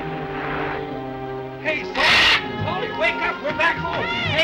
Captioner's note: Polly screeches